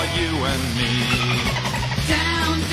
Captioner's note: dolphin chirping